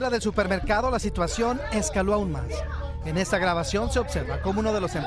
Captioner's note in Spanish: AUDIO EN INGLéS